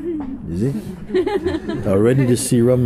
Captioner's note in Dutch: gelach